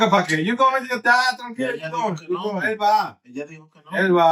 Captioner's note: speaking In Foreign Language